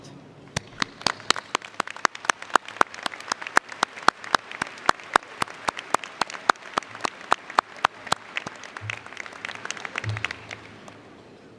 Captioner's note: applause